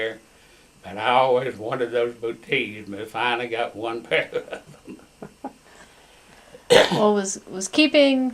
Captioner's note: laughs